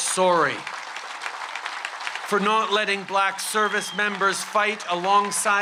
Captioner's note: continuous applause